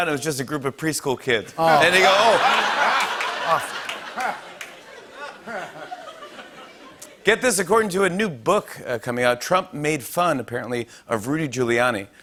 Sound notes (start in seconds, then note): 4.9 laughter